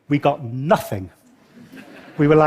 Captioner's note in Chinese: 笑聲